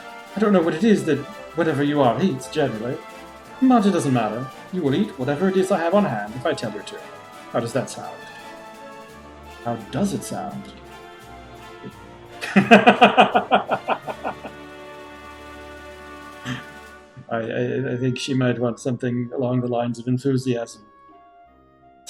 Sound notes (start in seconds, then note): 0.0 Musky chuckles; 12.4 laughs